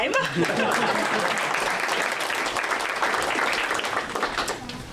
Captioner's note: audience applause